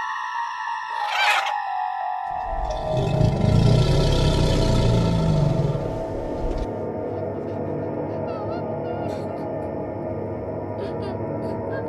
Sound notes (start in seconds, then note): 0.9 screeching; 2.3 growling; 10.8 crying